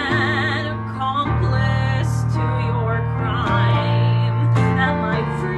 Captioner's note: none